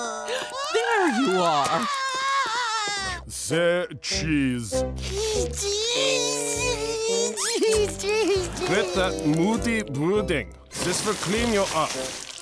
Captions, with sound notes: There you are. [crying] Say, "Cheese". C- Cheese. Cheese. Cheese. Cheese. Quit that moody brooding. This will clean you up.